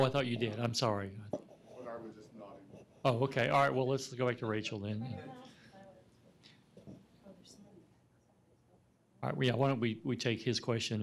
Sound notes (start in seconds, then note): 5.5 speaking faintly